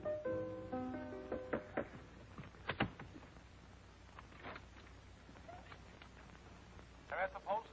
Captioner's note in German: klopfen